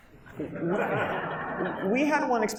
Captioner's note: audience laughs